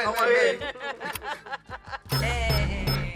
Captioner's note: laughs